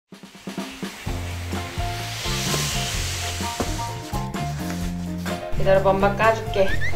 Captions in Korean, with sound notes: (박스 미는 소리) 기다려 봐, 엄마가 열어줄게!